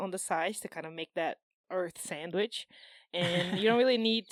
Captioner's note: laughs